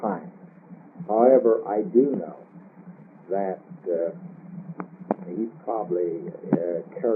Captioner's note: laughs